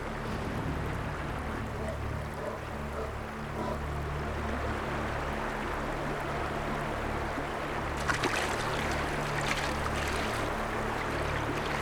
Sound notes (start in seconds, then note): 3.5 bear panting; 7.4 water sloshing